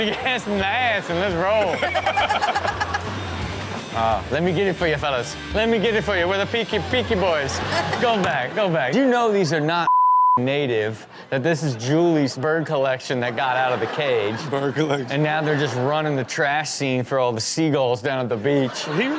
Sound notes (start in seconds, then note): 0.9 all laugh